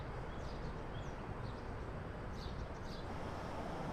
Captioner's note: none